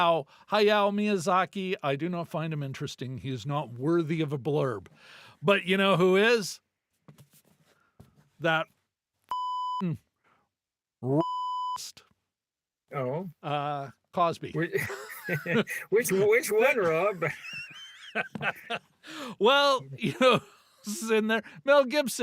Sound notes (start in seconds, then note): 11.1 beep; 14.6 laughing